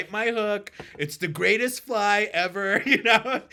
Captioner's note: laughing